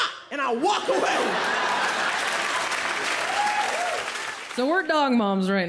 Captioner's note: audience laughing